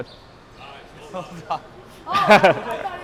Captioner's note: laughing